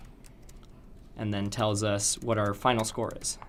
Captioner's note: typing Noises